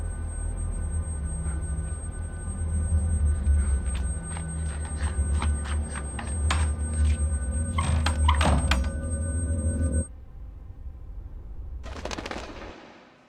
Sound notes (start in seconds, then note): 3.9 slippers on concrete, running; 7.8 door banging shut; 11.8 wings flutter